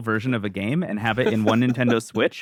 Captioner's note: laughs